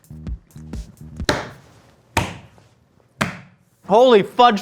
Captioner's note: banging counter